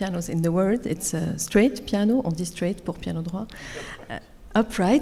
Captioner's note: speaks French